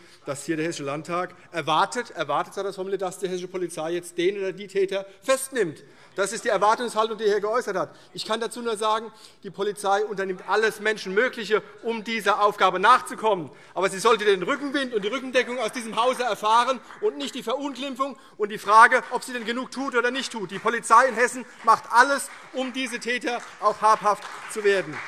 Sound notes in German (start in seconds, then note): 20.5 Beifall CDU